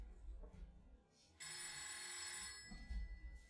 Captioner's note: the phone keeps ringing